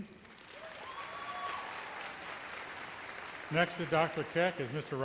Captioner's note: audience applauds